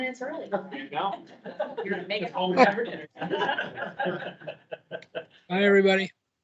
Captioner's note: members laughing and chattering